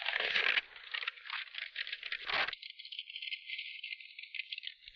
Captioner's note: map rustling